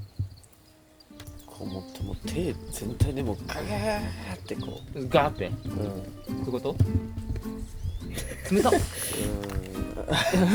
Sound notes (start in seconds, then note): 7.4 laughs